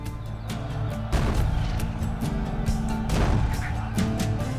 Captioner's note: crowd yelling; cannon fire